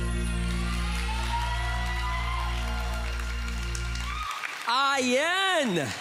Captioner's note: audience cheering